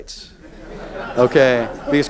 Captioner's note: audience laughs